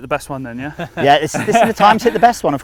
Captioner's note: laughs